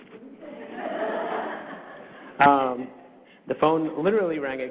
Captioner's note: audience laughs